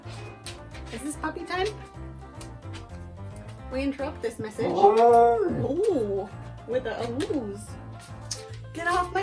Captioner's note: dog Awoos